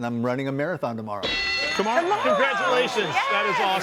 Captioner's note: bell dinging